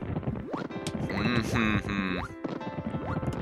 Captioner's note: deep humming